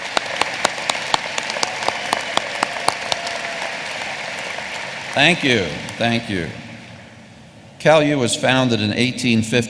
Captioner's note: applause